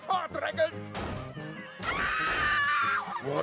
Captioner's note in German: Schussgeräusche, schreien